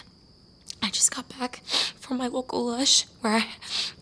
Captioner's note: sniffing